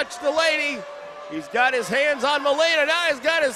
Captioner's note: crowd boos